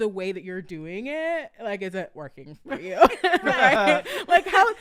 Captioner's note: laughing